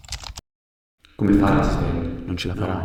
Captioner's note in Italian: Voci che si sommano in sottofondo